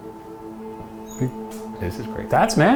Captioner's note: ominous music; house squeaks